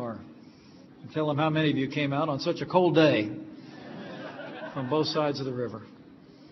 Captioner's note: laughter